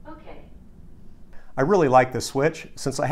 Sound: female Computer Voice

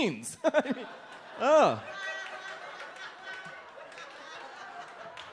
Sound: audience laughs

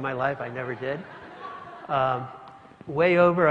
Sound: laugh

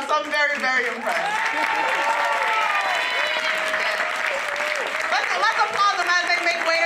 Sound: applause

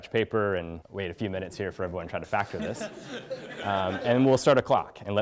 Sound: laugh

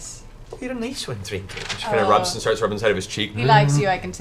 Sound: bear moans

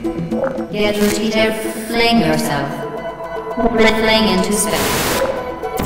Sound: static

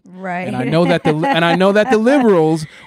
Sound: laughing

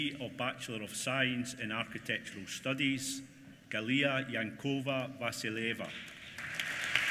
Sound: applause

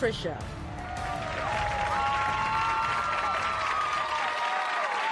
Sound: audience applauding

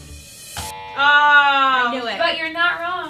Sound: buzzer buzzes; ladies exclaim

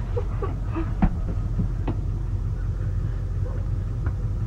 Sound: bat slamming

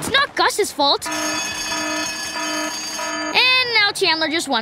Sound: alarm ringing

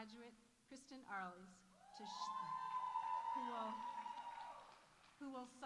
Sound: audience cheering

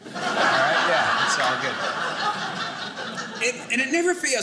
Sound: audience laughing

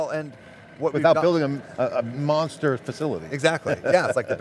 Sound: laughs

